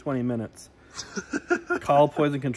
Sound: laughter

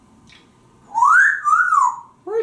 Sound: wolf whistling

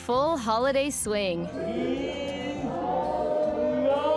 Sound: chatter

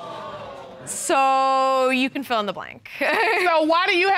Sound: chuckles

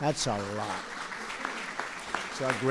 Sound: applause

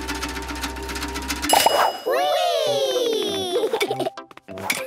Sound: pings

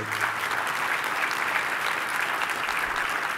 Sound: clapping

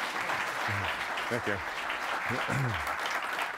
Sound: applause

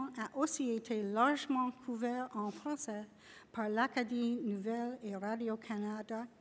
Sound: en français

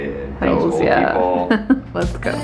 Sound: laughs

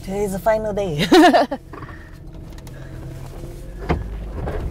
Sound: laughter

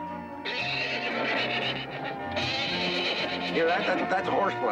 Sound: horse whinnies

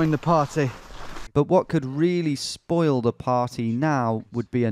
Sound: voiceover

